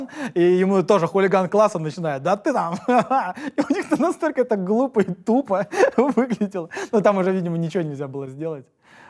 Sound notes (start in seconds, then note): 3.4 laughs